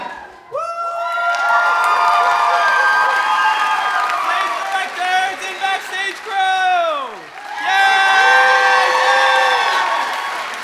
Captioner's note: applause